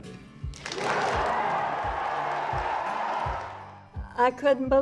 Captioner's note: applause erupts from audience